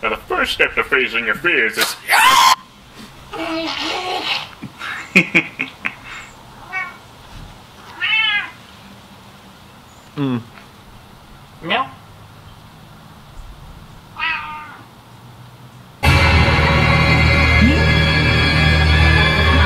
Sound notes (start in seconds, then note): 3.3 baby jabbering; 7.8 cat meowing; 14.1 cat meowing; 16.0 dramatic music